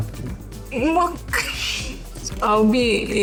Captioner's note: laughs